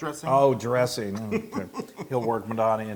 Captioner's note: laugh